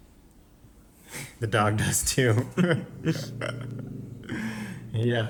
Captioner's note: laughs